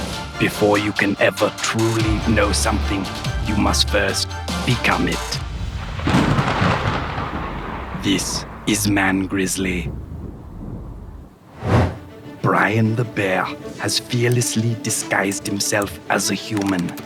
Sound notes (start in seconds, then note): 5.5 lightning strikes; 11.5 whoosh